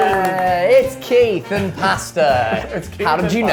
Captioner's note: laughing